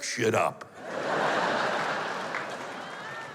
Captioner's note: laughter